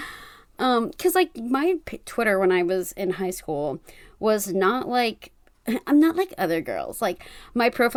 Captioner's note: high pitched voice